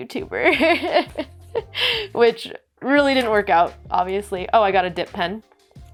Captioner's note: laughs